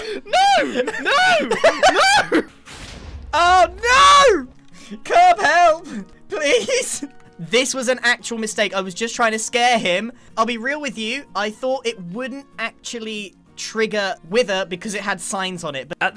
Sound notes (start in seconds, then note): 1.3 giggling intensifies; 2.6 wither explosions